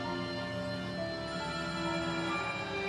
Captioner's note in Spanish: Suena el móvil